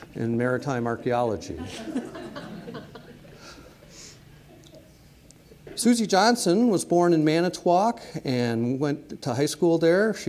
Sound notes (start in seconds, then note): 1.5 audience laughing